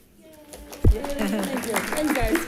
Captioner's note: attendees applauding